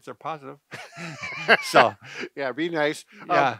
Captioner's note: both laugh